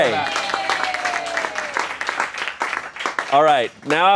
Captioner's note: crew cheers and applauds